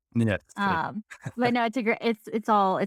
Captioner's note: laughing